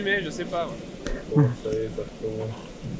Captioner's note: laughs